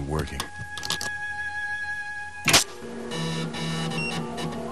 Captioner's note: beeps, whirring